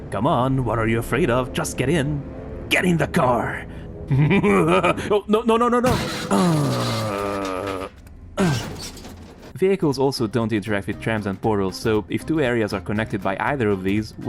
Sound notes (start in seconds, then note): 4.0 laughs menacingly